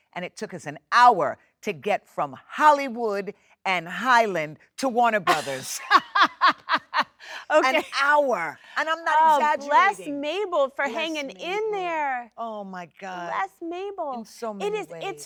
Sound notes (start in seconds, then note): 5.3 Jennifer laughs